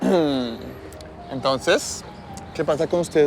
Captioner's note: carraspea